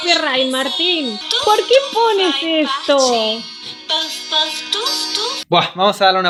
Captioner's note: laughs